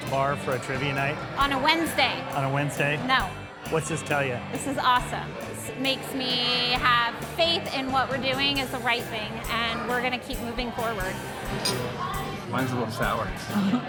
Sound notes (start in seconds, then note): 11.7 glass clinking